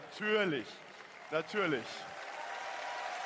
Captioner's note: applause